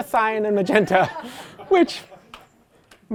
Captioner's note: laughter